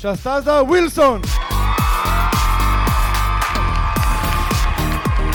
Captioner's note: audience cheering